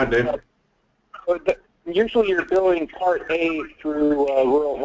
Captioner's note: voiceover